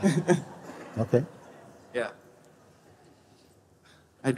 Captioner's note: laughter